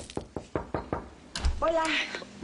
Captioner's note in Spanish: Toques en la puerta